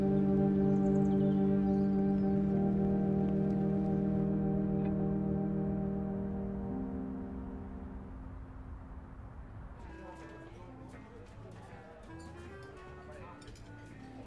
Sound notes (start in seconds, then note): 6.5 distant traffic humming; 9.6 patrons chattering over pleasant easy listening music